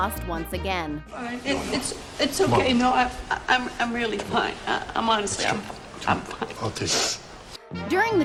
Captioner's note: crying